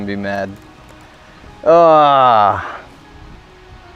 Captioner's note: sighs